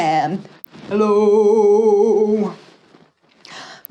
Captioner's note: low-pitched